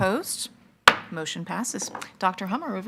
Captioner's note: gavel